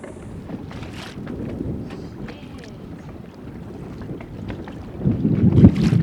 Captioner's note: distant thunder rumbling